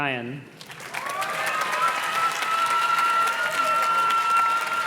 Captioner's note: audience cheers and claps